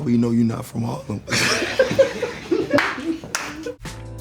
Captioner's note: laughing